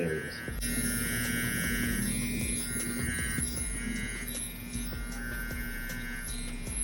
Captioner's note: tattoo gun buzzing; slow groovy music